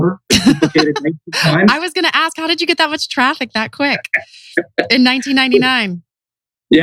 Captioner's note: laughs